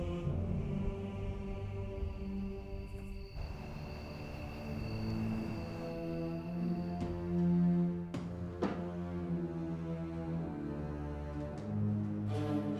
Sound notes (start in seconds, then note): 1.1 crickets chirping; 5.3 soft dramatic music